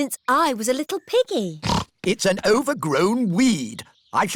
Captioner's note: snorts